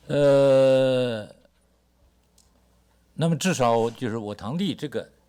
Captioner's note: speaks Mandarin